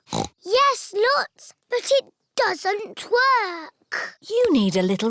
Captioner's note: snorts